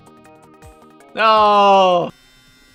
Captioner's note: dissapointed